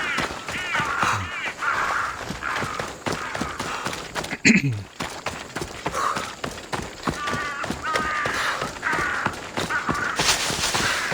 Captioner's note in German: schreien